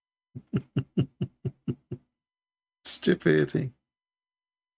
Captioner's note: Ketawa